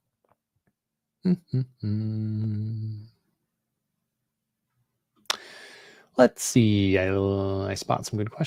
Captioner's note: humming